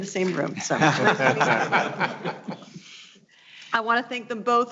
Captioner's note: all laughing